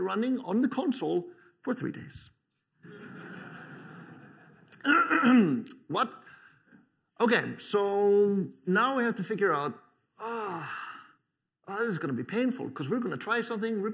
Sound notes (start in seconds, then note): 2.8 laughter; 4.7 clears throat